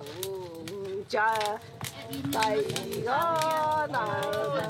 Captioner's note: foreign spoken audio